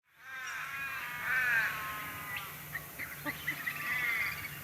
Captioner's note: bird sounds